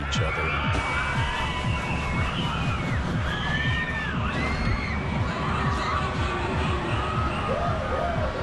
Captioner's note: loud Screaming